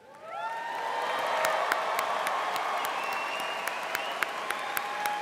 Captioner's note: audience cheering and applauding